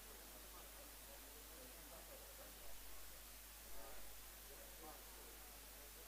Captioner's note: indistinct conversation